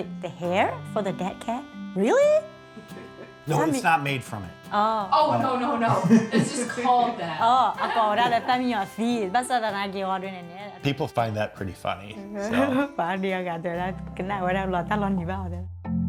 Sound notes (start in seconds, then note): 2.7 gentle music; 9.5 speaking in foreign language; 12.5 speaking in foreign language